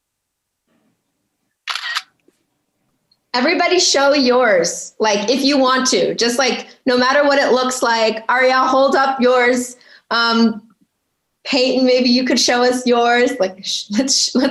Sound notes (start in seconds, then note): 1.6 camera shutter clicking